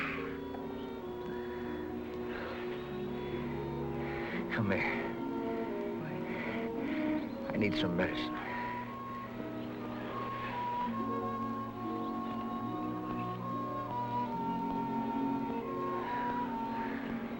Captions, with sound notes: (gentle music) - Come here. - Why? - I need some medicine. (gentle music) (birds chirping)